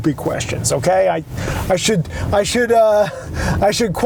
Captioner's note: laughs